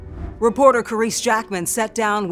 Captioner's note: air whooshing